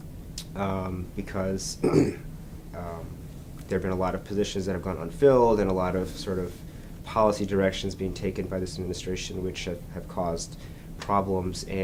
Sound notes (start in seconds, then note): 1.8 clears his throat